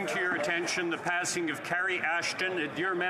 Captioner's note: speaking French